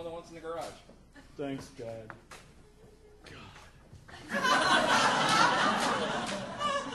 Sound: annoyed whisper

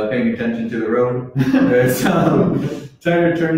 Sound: laughs

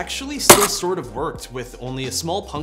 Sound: glass breaking

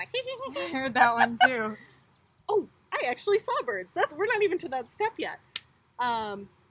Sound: hehehe

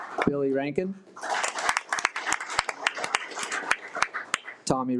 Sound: audience applauding

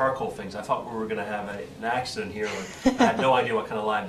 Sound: laughing

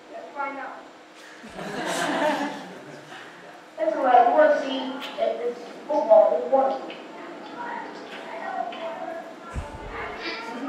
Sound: laugh

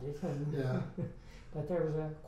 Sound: laughs

